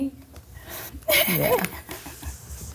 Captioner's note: laughing